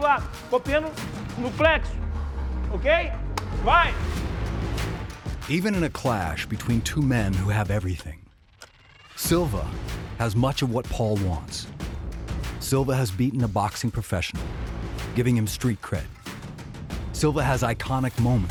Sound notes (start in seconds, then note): 1.4 speaking foreign